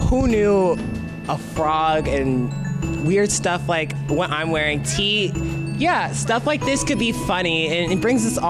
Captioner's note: none